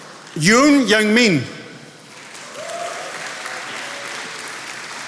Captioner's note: attendees applauding